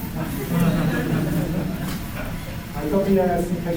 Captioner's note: laughter